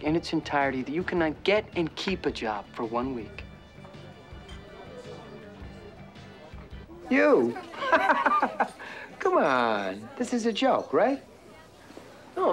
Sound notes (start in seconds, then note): 6.9 laughing